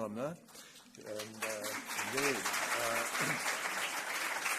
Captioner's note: applause